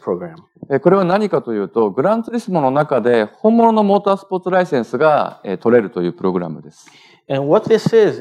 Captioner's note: speaking japanese